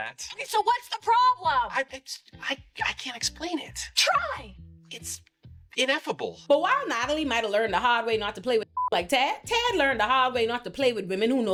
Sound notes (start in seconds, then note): 8.7 beep